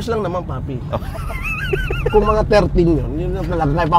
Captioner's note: laughing